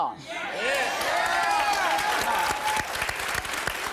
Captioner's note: shouts and applause